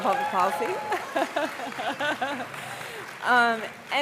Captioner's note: applause